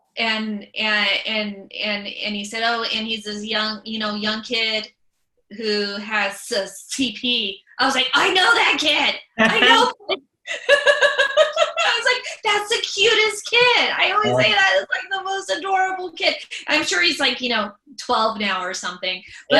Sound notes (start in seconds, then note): 9.4 laughs